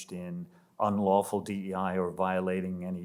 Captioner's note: none